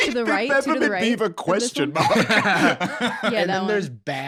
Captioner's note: laughs